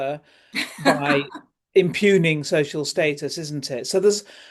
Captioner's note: laughter